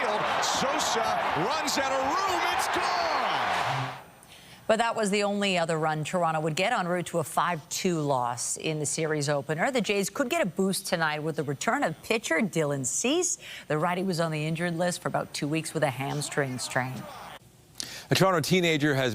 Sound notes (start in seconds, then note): 4.6 applause